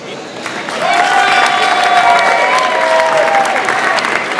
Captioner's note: audience applauds